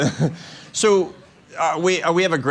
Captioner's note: laughter